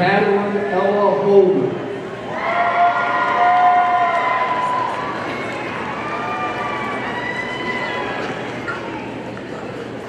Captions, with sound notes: Madeline Ella Holder, (audience cheering)